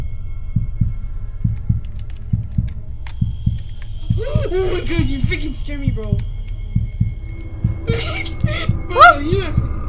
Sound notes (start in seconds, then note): 4.2 shouts in surprise; 7.8 laughs nervously